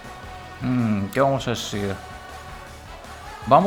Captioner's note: thinks in Spanish